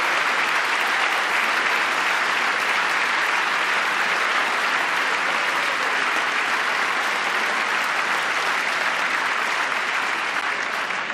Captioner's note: applause